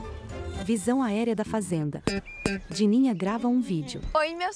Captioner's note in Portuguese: Acordes de guitarra; Pássaros